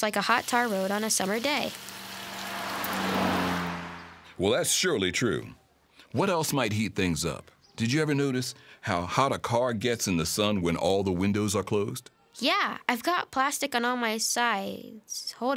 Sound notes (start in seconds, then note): 1.7 car driving past